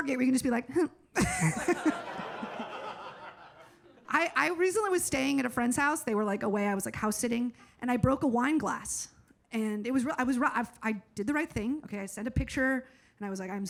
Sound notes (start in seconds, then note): 1.2 audience laughs